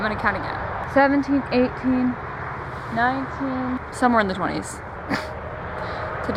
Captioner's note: snorts